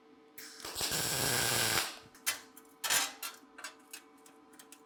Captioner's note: sparks hissing